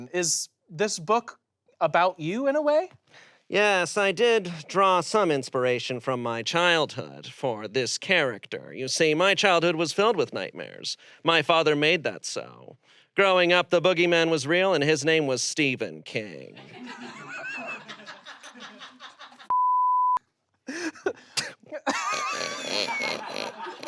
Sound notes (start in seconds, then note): 16.6 audience laughs; 19.5 beep; 21.8 everyone laughs